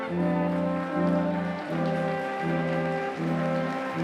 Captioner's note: applause